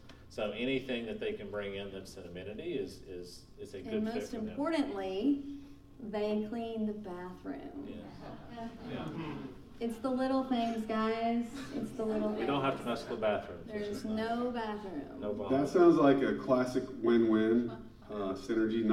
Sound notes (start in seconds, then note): 7.9 laughing